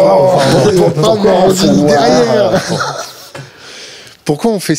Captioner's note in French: rires collectifs